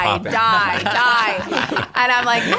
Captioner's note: laughter